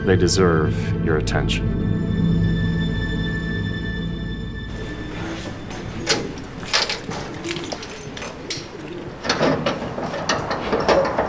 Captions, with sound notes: They deserve your attention. (somber orchestral music) (metal door clanking)